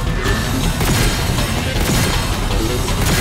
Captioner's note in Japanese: 発砲音